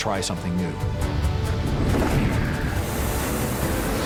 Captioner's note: fast approaching object; flying machine noise